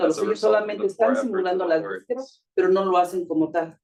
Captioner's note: speaking Spanish; faintly speaking; speaking Spanish